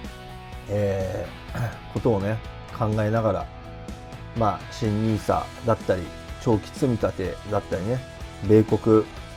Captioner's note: clears throat